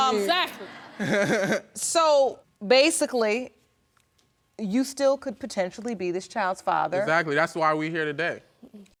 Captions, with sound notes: Uh, exactly! I... I mean... (LAUGHING) So, basically... You could still potentially be this child's father. Exactly, that's why we here today.